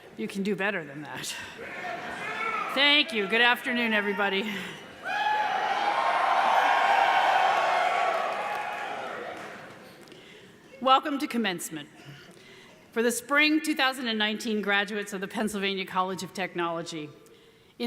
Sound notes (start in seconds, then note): 5.0 audience cheers